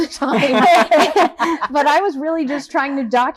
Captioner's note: all laughing